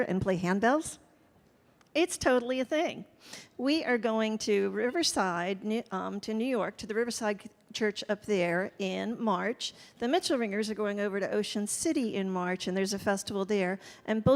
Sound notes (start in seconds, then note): none